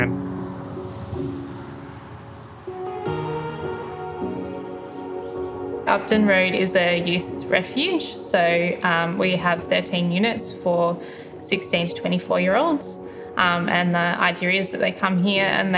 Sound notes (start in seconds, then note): 0.2 vehicles faintly whizzing; 3.6 birds singing